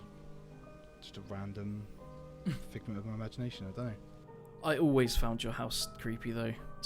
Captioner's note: laughs